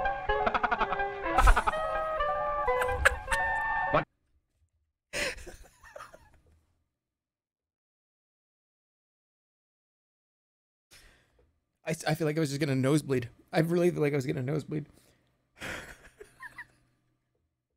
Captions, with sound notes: [cheerful sped-up laughter] [laughs] [laughs] I feel like I was just getting a nosebleed. I really—like, I was getting a nosebleed. [laughs]